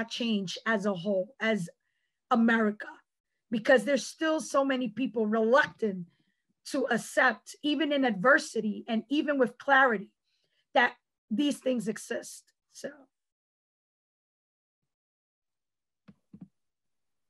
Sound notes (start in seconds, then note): 13.1 pause